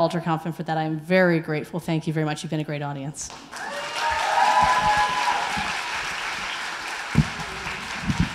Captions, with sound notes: and for that I am very grateful. Thank you very much. You've been a great audience. (applause)